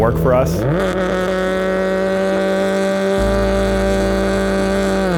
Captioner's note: engine revving